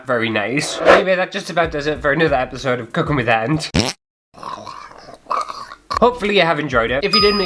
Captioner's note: fart!